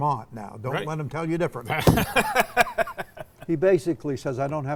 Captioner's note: laughing